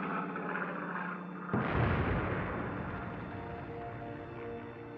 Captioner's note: engine roaring; explosion